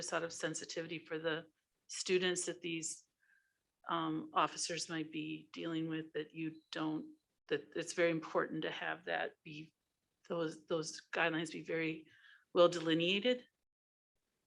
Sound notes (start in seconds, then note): none